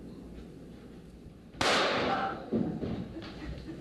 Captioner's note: gunshot